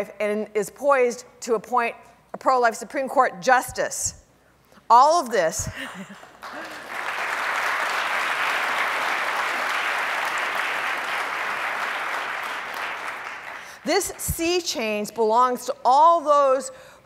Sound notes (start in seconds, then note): 5.8 laughs; 6.3 audience applauding